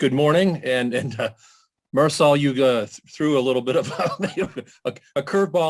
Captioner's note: laughs